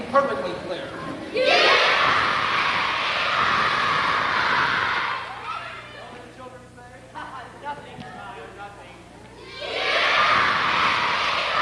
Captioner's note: crowd noises, pandemonium